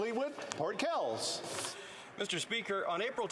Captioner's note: speaking French